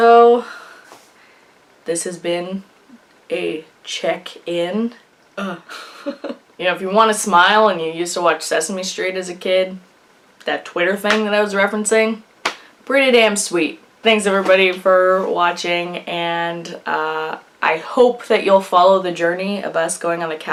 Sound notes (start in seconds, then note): 5.6 laughs